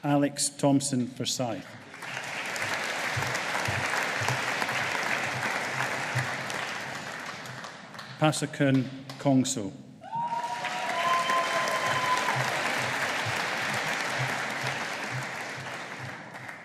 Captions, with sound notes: Alex Thomson Forsyth. (AUDIENCE APPLAUDING) Passakun Kongso. (AUDIENCE APPLAUDING)